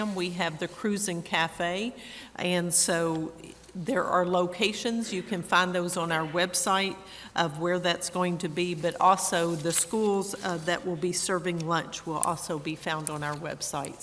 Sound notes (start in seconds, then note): none